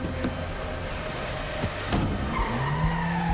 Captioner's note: tires squeal